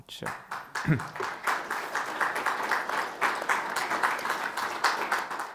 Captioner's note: audience applauding